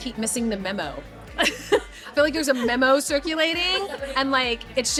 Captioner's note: laughing